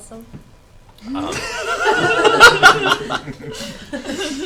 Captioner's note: all laugh